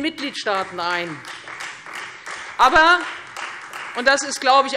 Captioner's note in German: Beifall Freie Demokraten